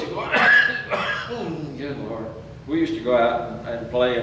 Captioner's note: coughs